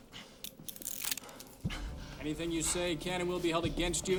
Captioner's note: breathing heavily